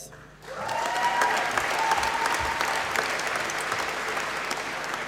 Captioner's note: applause